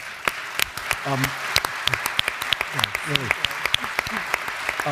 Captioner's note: audience applauds